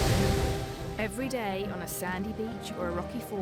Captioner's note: waves whooshing